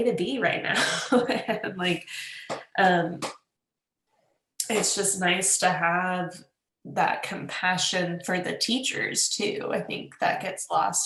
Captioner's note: laughs